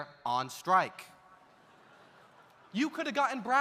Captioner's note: audience laughs